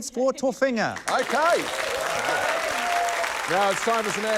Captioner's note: cheering, applause